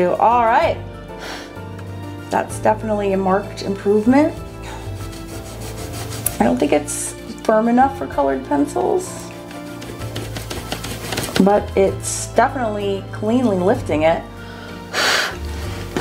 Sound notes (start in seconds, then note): 1.1 blows; 3.8 eraser rubbing; 9.7 eraser rubbing; 14.8 blows